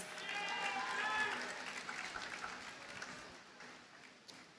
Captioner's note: audience cheers and applauds